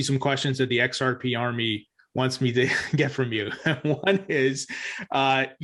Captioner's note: laughs